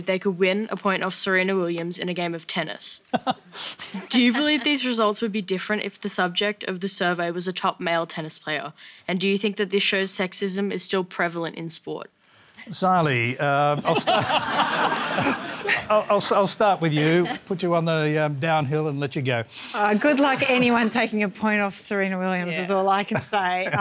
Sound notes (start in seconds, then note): 13.8 laughter